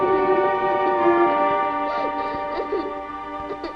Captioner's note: girl sobs